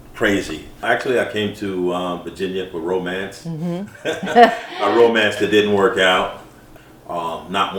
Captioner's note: laugh